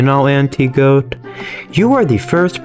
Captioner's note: inhales Oxygen